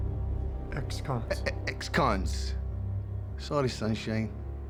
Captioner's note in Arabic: اللهجة الاسكتلندية